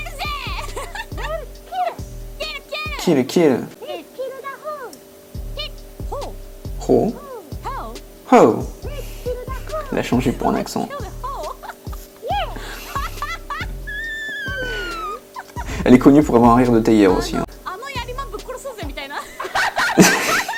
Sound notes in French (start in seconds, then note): 13.9 bruit de dauphin